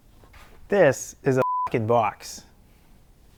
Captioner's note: beep